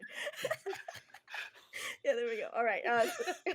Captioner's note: everyone laughs